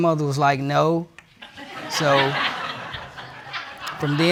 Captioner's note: audience laughing